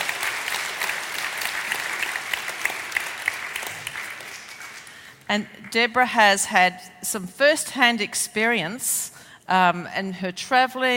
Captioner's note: applause